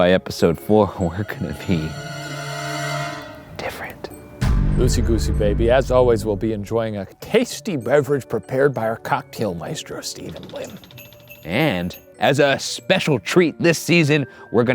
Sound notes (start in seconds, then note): 4.5 suspenseful music; 11.0 bells chiming